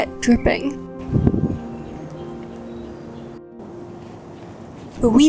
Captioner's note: wind blows and distant birds chirp